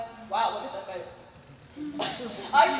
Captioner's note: laughs